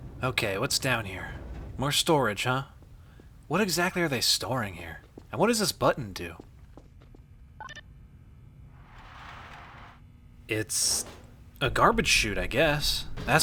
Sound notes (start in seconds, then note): 7.6 beeps; 10.8 door slides up and clunks open